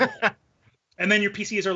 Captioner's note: laughing